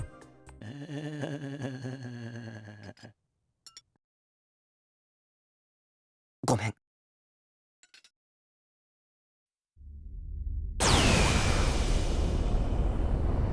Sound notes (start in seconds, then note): 0.6 zombie groan; 5.5 silence